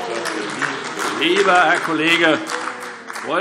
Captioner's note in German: Beifall AfD - Unruhe